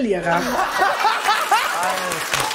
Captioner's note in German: Gelächter